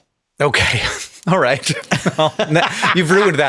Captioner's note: chuckles